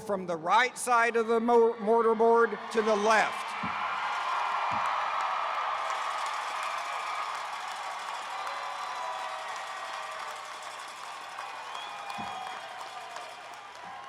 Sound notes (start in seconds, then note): 3.7 attendees cheering